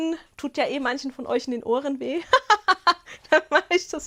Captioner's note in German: Gelächter